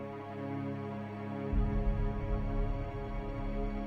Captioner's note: boom